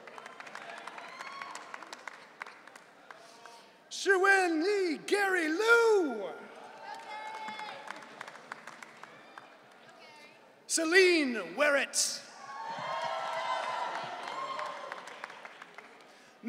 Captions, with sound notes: (audience cheering) Chuwen Lee Gary Lou. (audience cheering) Celine Weritz. (audience cheering)